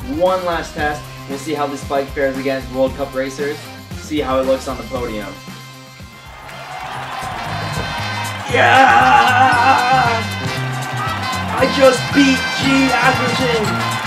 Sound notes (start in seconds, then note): 6.1 sounds of crowd cheering; 9.1 yelling in excitement